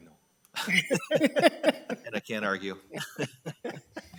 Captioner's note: people laughing